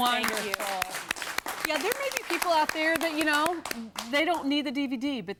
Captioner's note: �applause�